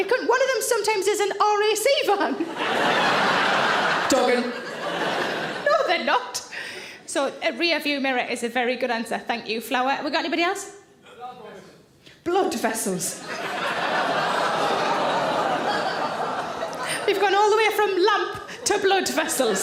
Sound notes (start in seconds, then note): 2.4 audience laughs; 13.2 audience laugh and groan